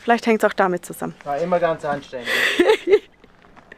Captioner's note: laughter